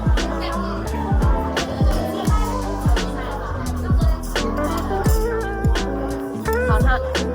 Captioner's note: laughs